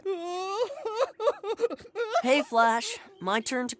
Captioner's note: crying